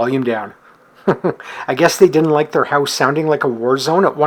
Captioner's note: chuckles